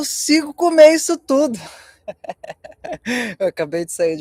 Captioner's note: laughter